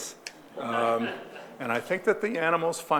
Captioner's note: audience laughing